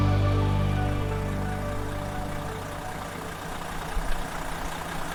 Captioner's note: engine purring